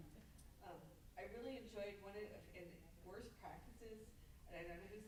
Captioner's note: stammers